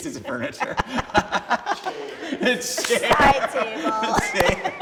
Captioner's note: laughing